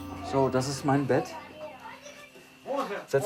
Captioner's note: speaking German